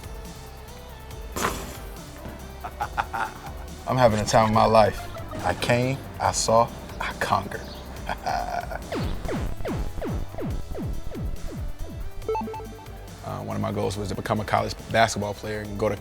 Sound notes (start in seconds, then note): 1.3 basketball falling through rim and net; 8.7 video game music